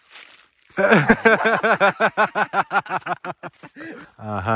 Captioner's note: both laugh